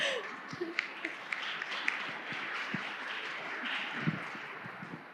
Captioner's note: audience clapping